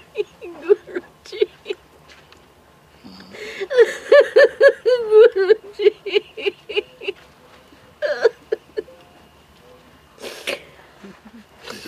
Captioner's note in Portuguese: soluços